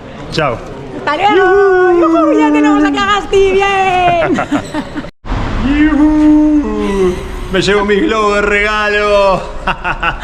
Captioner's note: laughs